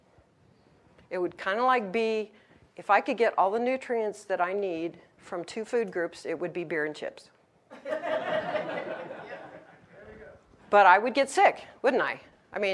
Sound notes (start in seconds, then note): 7.8 audience laughs